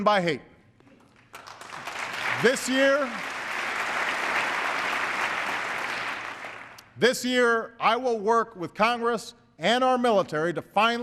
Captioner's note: applause